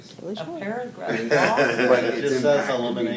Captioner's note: laughs